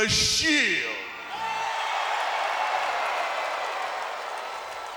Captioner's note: audience cheers